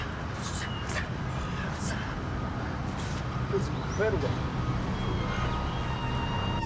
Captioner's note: vocalizes; Marla screaming; soft foreboding music